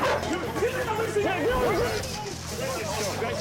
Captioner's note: men shouting